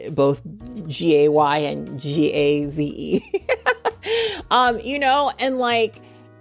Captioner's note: chuckles